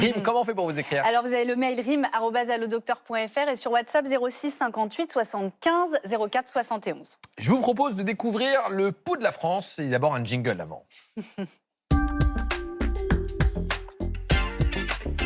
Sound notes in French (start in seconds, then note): 11.1 rires